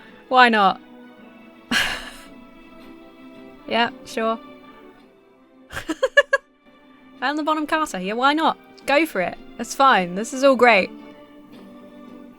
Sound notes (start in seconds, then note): 1.7 exhales; 5.7 laughs